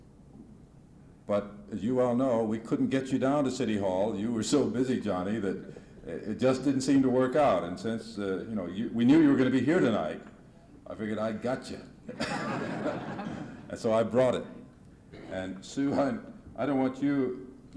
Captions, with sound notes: But as you all know, we couldn't get you down to City Hall. You were so busy, Johnny, that, it just didn't seem to work out. And since, you know, you, we knew you were gonna be here tonight. I figured I got ya! [Laughter] And so I brought it! And Sue, I don't want you,